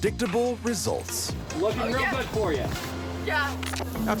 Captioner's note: twin speaking